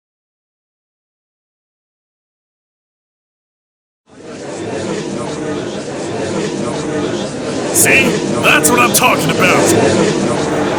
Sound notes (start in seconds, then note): 4.2 gallery chattering, steadily growing louder